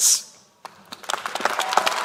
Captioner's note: applause